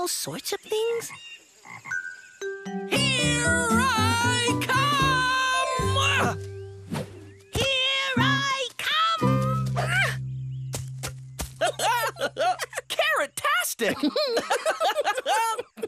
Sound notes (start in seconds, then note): 11.1 grunt of effort; 11.6 laugh; 13.8 laughter